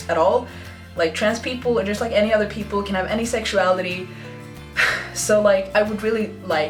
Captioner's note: sighs